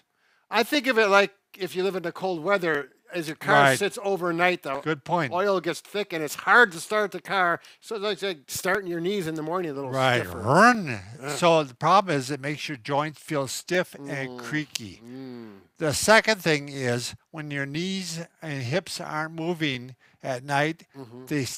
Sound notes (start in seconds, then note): 9.9 imitates engine revving